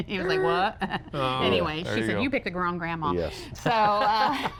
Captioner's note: laughter